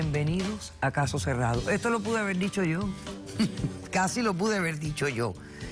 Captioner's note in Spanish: Risas